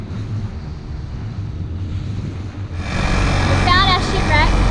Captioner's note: motor rumbling